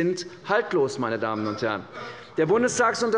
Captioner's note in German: Lachen